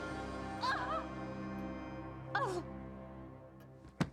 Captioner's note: groaning